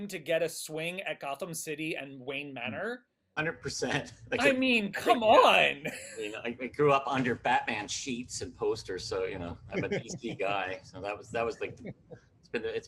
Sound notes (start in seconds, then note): 6.1 laughs